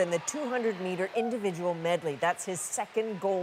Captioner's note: cheers and Applause